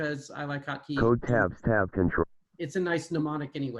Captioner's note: automated voice